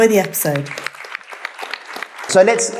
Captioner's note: audience applauding